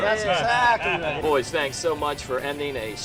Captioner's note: laughing